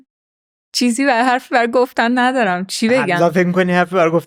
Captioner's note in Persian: خنده